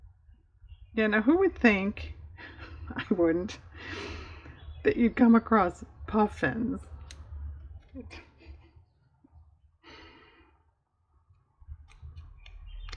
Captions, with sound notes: yeah now who would think (laughs), i wouldn't, that you'd come across puffins?